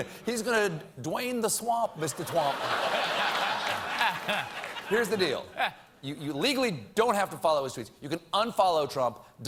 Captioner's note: laughter